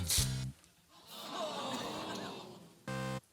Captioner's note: audience groans